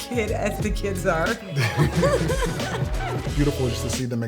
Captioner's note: both laugh